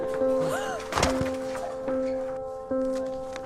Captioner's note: gasping; thud; paper ruffling